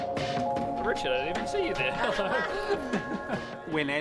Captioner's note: laughing